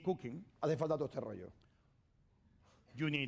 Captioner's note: speaking spanish